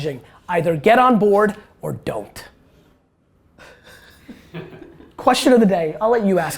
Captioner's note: group laughter